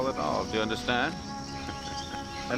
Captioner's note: chortles